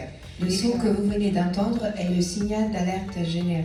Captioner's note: annoucement in French